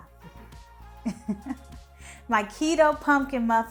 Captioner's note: laughing